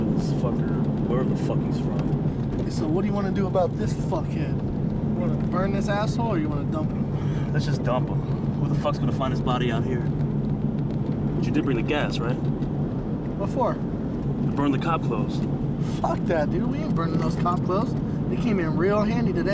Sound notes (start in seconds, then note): none